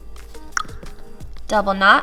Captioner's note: clicks tongue